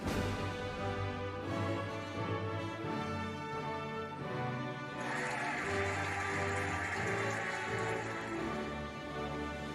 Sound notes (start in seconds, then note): 4.9 cheering and applauding